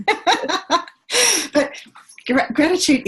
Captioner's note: laughs